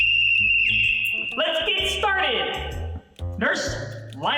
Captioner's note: whistle blows